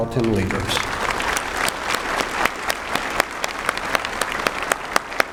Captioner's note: applause